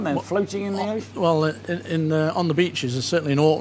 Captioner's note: stammering